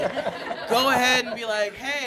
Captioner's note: audience chuckling